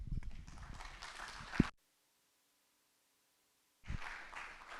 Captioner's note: applause